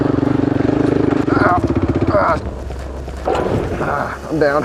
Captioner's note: motorcycle engine rumbling; grunting